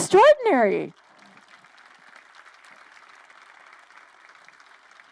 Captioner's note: crowd applauding